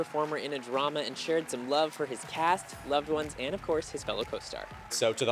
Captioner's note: cheers and Applause